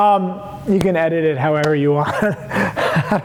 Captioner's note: laughs